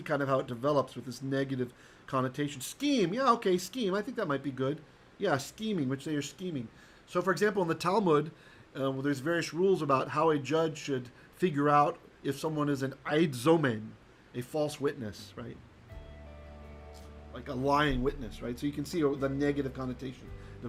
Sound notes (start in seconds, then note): 13.1 Hebrew